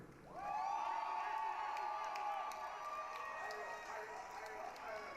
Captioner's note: applause, cheering